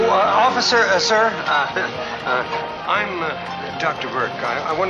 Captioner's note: doctor Burke laughs